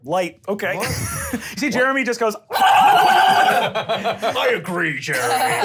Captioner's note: squealing